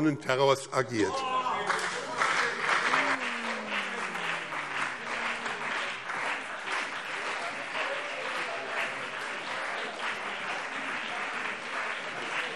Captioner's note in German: Beifall BÜNDNIS 90/DIE GRÜNEN und vereinzelt CDU